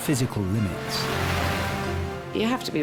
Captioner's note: boat engine revving; waves crashing